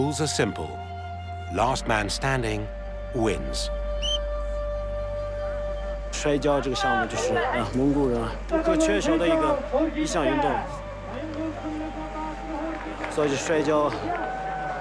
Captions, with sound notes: The rules are simple-- last man standing wins. [whistle blows]